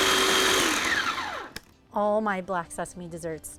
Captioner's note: food processor whirs